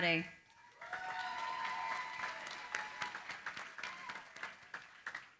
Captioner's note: cheering, applause